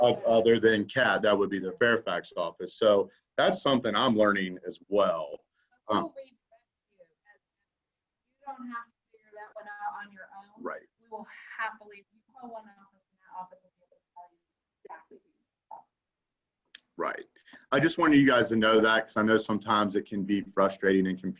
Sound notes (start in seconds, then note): 9.2 background talking